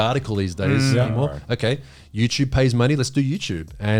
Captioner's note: all laughing